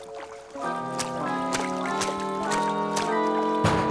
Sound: sloshing; knocking

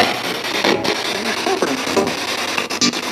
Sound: disembodied Voice

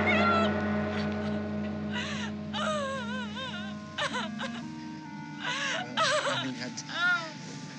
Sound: sobbing

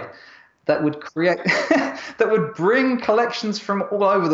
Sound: laughs

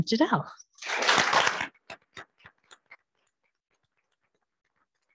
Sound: audience applauding

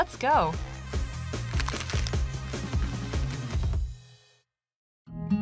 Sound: paper sounds

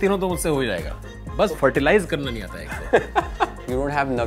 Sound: laughs

